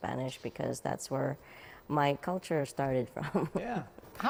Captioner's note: laughs